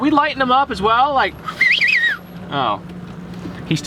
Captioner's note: whistling